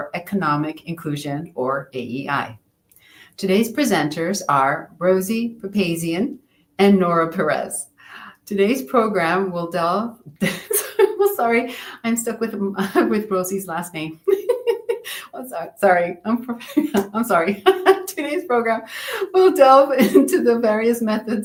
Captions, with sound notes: for Economic Inclusion, or AIE. Today's presenters are Rosie Papazian and Nora Perez. Today's program will delve-- [laughs] Sorry, I'm stuck with Rosie's last name. Sorry. I'm sorry. Today's program will delve into the various methods